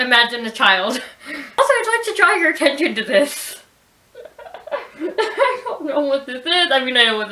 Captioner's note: laughs